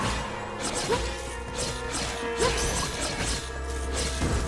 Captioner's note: ominous orchestral music; swords slashing